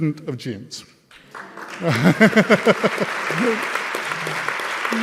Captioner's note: audience clapping